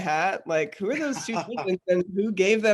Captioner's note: laughing